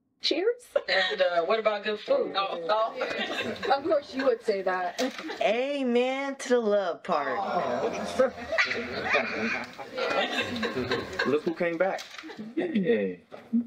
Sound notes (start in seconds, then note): 2.3 chatter and laughter; 7.6 everyone laughing